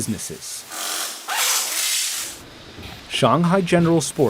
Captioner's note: machines whirring